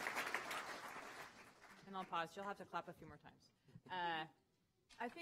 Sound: applause

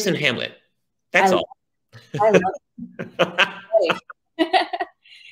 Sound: laughs

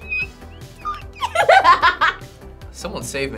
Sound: laughs

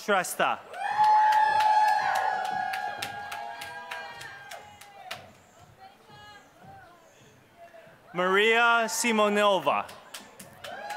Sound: applause; applause

